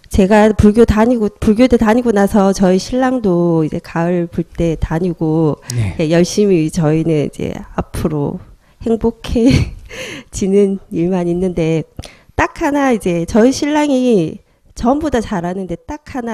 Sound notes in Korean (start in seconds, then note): 9.4 웃음